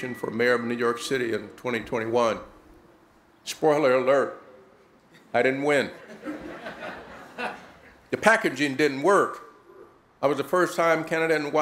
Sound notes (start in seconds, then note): 5.9 laughter